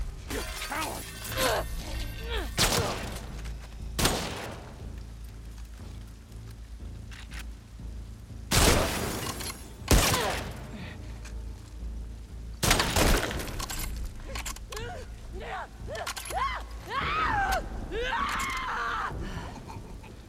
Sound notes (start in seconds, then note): 16.2 screams; 19.2 sigh